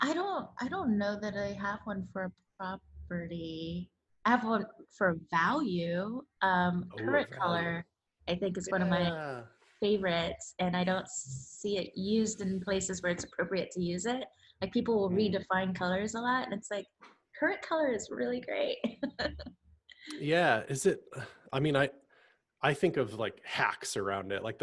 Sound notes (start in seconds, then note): 20.2 laughs